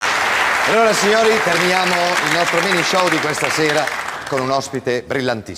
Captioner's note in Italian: applauso